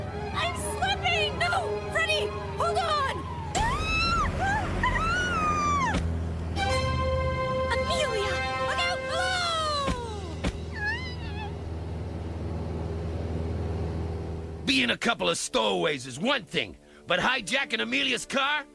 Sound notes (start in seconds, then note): 3.5 screaming; 10.7 whimpering